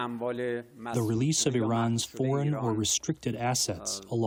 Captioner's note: through translator